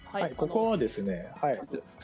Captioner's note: speaking japanese